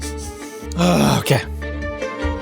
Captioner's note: sniffing; sighing; playful fast music continuing